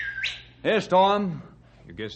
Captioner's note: whistling